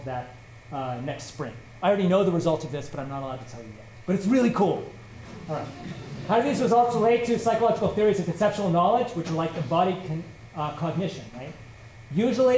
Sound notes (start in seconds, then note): 5.4 laughter